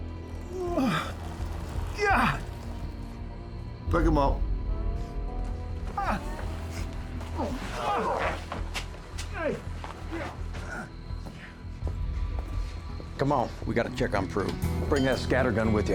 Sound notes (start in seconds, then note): 3.8 scottish accent; 6.0 geraldo continues groaning